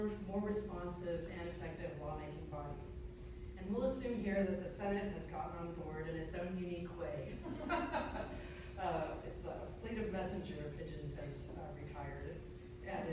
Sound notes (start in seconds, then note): 7.4 crowd laughing